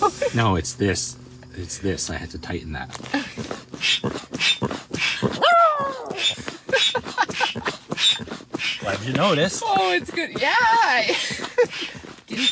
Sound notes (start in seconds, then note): 5.3 roar